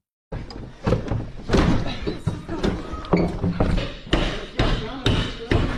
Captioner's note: footsteps